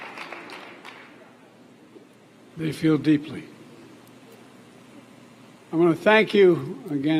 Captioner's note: applause